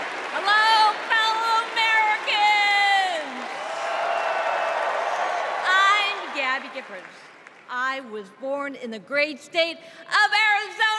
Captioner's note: crowd chanting